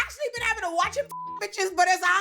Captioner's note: beep